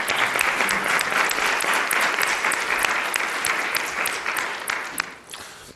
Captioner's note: applause